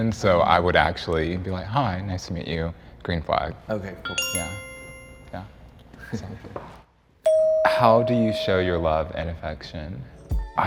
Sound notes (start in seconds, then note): 4.0 bell chimes; 5.8 chuckles; 7.2 bell dings